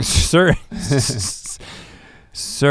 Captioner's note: chuckles